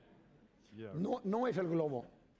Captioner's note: speaking spanish